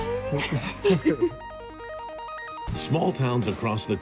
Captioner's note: laughing